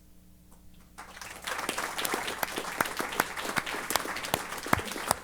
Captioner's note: applause